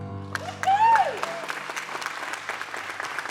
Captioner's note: applause; cheering